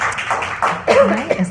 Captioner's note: applause